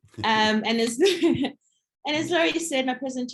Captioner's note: laughs